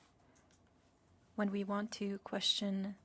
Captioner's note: speaking French